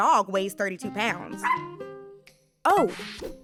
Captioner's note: dog barking